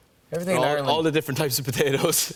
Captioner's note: laughter